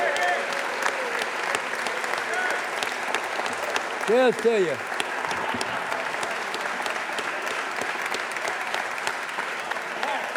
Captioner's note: cheers and applause